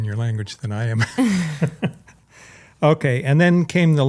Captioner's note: laughs